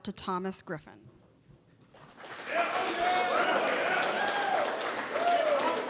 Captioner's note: applause